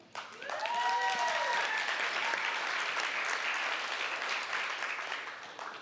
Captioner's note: applause, cheering